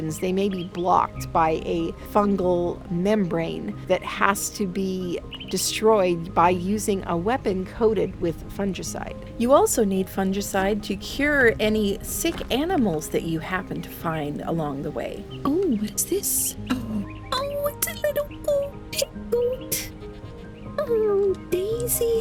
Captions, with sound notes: They may be blocked by a fungal membrane that has to be destroyed by using a weapon coated with fungicide. You also need fungicide to cure any sick animals that you happen to find along the way. Oh, what's this? Oh, it's a little goat! Hey goat! (squeals because of the cuteness) Oh, Daisy.